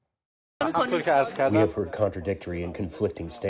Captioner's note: through translator